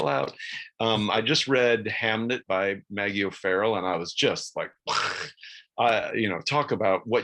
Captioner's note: mimics explosion